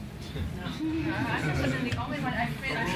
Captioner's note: members laugh